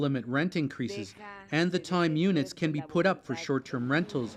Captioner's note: speaking alternate language